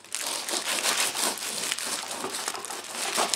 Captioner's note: knife scraping on tinfoil